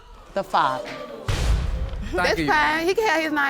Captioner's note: crowd gasping